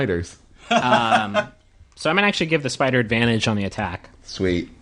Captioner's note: Merle laughs